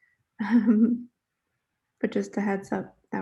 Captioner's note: chuckles